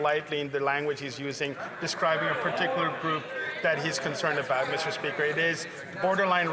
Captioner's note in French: voix de l'interprète